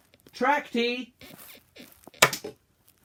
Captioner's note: bed squeaks